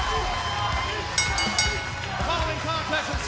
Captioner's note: bell ringing